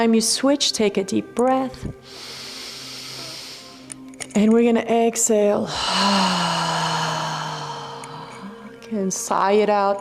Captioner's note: sighs